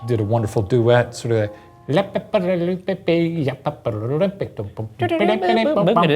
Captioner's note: imitating piano